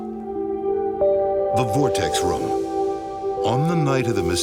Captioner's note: voiceover